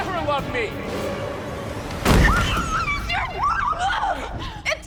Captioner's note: woman screams